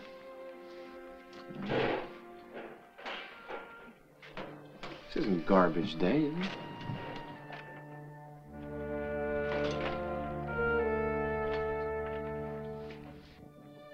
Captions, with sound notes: (softly clanging and clattering) This isn't garbage day, is it? (ominous music) (softly clattering)